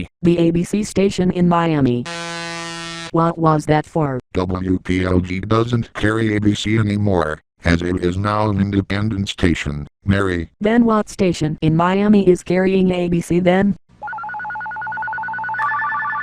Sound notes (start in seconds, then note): 2.0 tacky buzzer